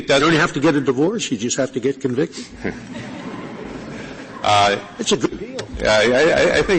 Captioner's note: laughter